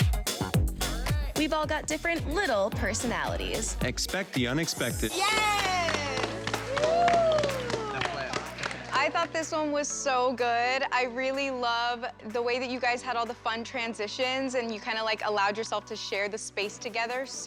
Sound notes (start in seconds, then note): 5.2 cheering